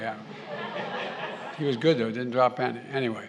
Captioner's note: laughter